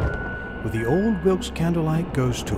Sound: thunder

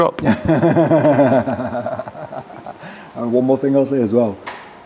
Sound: laughing

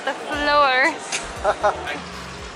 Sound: laughter

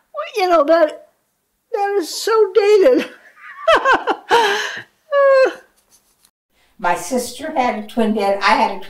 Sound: laughing

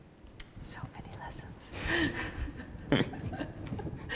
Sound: laughs

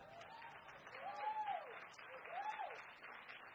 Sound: crowd cheers

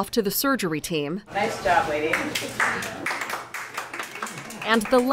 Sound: applause

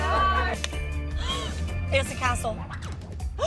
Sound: light snapping; surprised gasping; surprised gasping

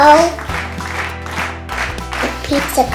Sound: applause

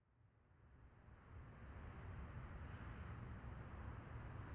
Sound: crickets chirping

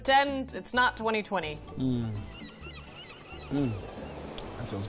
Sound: seagulls, waves

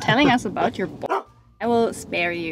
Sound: dog barking

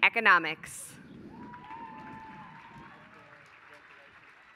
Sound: applause

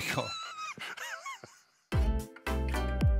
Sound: laughing; outro music

